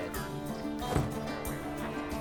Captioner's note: car door closes